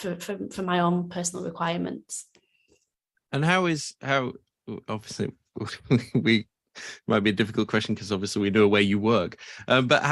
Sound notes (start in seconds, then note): 5.7 chuckles